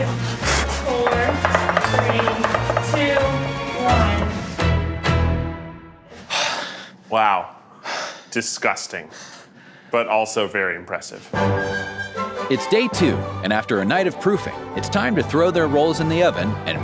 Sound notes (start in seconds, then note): 4.4 panting; 4.4 tense music